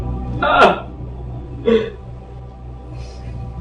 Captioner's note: whimpering